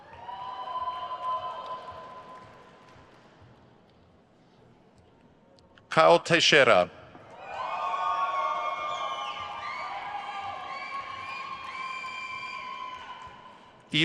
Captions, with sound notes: (crowd cheers) Caio Teixeira. (crowd cheers)